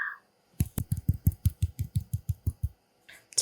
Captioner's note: clap clap